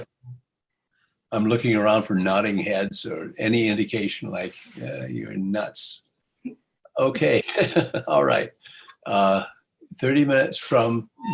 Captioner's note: laughter